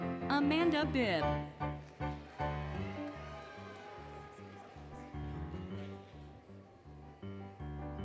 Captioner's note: applause, Cheering, Music